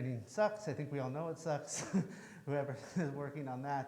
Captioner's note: chuckles